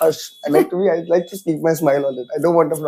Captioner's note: laughs